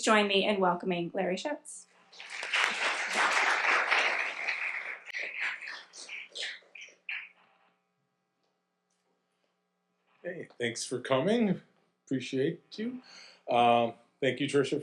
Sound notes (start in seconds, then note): 2.1 audience applauding